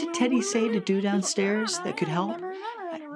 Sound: critters mumbling loudly

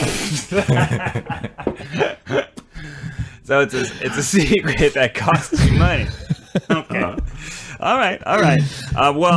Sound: laughs

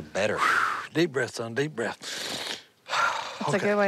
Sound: exhales

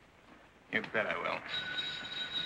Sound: phone ringing

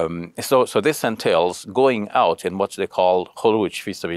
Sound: speaks Arabic

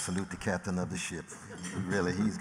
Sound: laughter

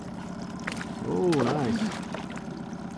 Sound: fish splashing

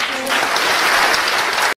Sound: applause

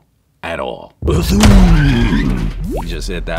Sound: crash

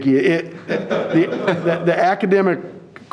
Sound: audience laughing

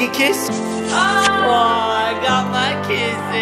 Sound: kissing noise

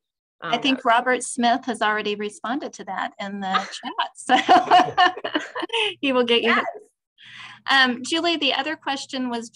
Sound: laughter

